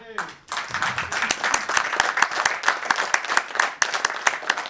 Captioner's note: audience clapping